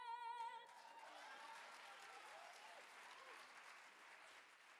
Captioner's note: audience applaud